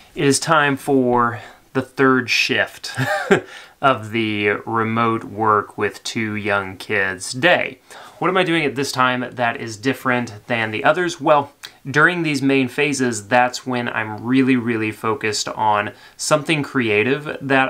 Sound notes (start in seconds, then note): 2.9 laughs